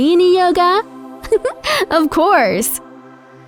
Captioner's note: laughs